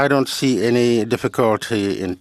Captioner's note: speaking French